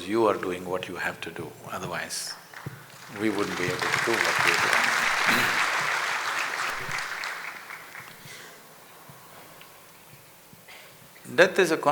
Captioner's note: applause